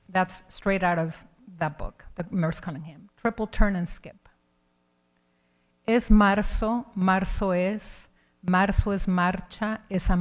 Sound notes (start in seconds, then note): 6.1 speaking in Spanish